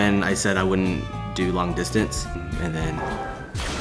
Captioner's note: plane crashes